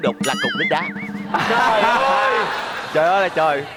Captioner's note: laughing